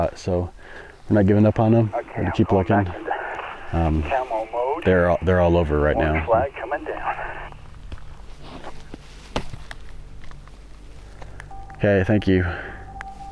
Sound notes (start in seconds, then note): 3.1 talking on the radio